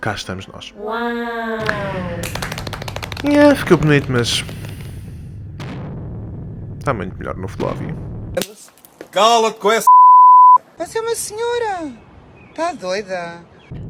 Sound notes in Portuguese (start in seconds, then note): 2.2 palmas